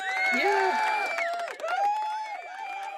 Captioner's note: cheering